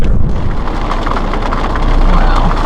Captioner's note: rain splattering